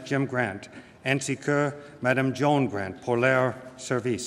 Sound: speaking french

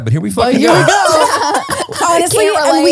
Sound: everyone laughs

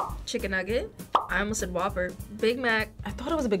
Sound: bubble popping

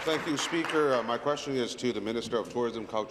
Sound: applause

